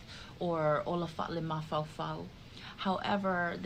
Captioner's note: speaking in the Samoan language